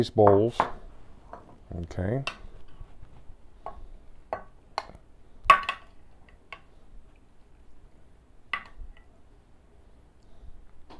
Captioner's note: silence